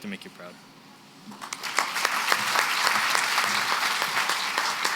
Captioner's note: applause